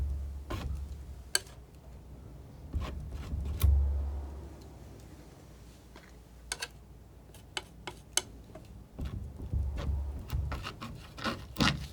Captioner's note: scratching